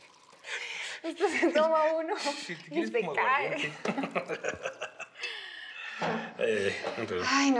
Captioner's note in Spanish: Ruido al verter; Risas